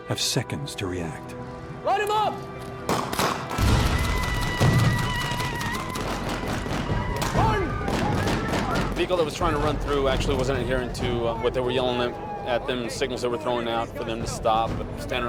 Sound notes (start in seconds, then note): 3.0 gunfire, explosions, and yelling